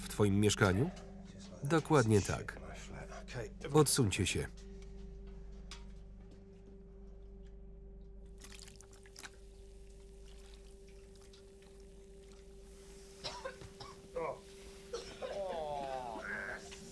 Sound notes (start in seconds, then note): 10.1 fizzing and hissing; 13.2 coughing